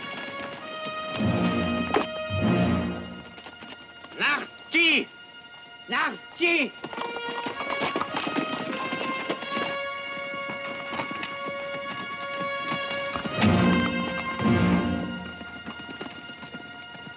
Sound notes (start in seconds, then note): 4.3 Delgadito speaking foreign language; 7.3 dramatic music